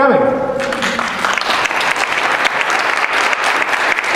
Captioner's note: applause